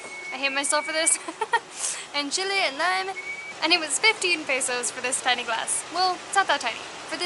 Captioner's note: laughter